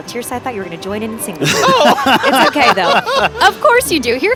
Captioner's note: laughing